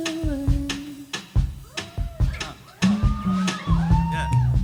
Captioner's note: audience cheering